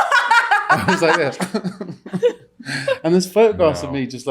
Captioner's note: laughing; crying noise